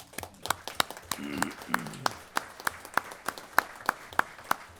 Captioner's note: applause